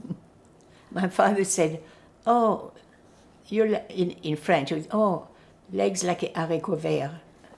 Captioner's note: french